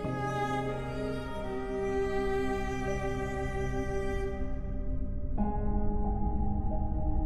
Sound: somber music; ship rumbling

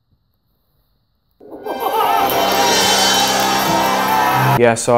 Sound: triumphant music; wild cheering

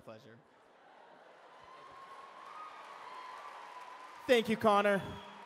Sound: applause

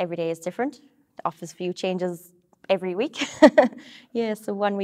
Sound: laughs

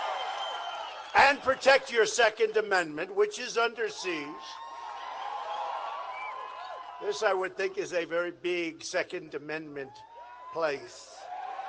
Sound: applause

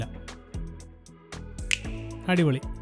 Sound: snapping

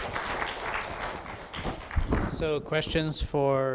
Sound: audience applause

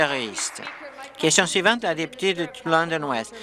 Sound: applause

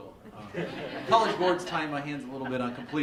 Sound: laughter

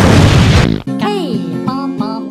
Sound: explosion; fart

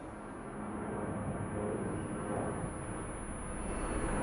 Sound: plane flying overhead

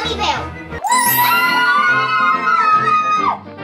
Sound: cheers

